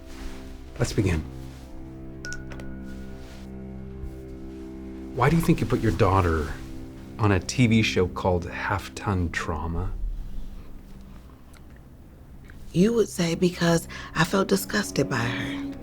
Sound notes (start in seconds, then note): 2.2 beeping